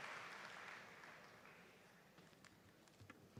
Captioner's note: applause